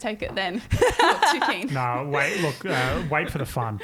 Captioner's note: laughing